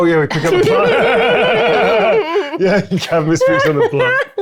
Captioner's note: laughs